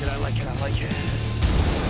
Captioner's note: sizzling